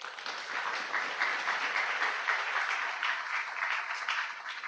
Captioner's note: audience applauds